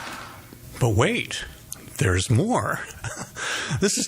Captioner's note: chuckles